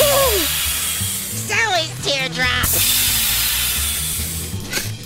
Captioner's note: gasps, inhales; air replenishing sound plays